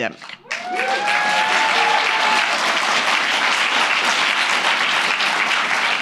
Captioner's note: audience cheers and applauds